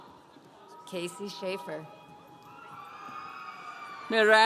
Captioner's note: audience cheering